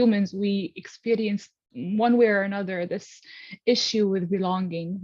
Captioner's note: none